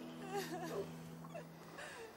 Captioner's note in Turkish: Ağlama sesi